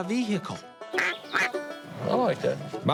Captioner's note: blows duck call